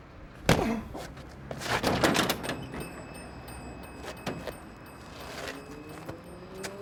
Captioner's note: punch thudding; Ricky groaning